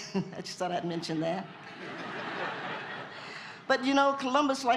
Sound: laughter

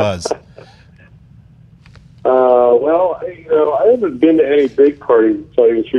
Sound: laughing

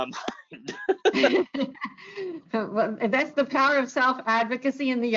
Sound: laughs

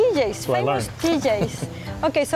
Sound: laughter

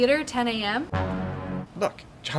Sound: deep dramatic horn blast

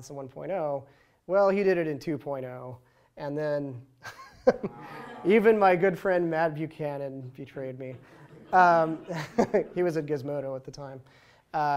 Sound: laughs

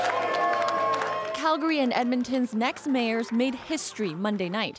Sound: cheers and applause

